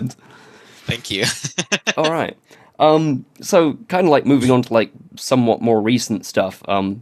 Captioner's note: laughs